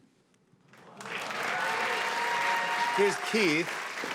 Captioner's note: cheers and applause